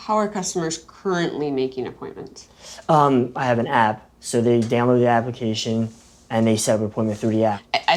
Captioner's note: none